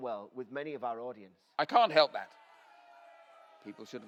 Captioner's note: crowd booing and shouting